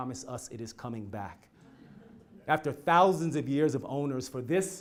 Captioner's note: laugh